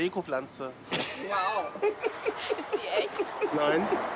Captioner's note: all laughing